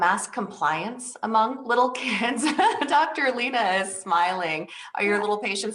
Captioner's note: laughs